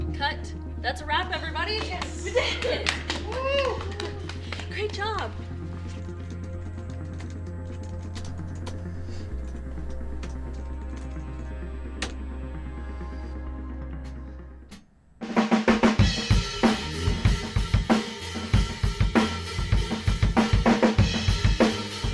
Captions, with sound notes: Cut! That's a wrap, everybody! We did it! Woohoo! Great job! (fingers typing) (rock music)